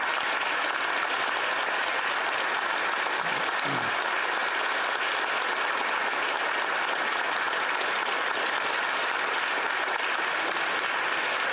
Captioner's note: applause